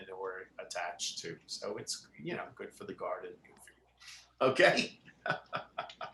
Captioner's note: laughs